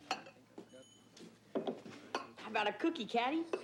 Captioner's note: bell dings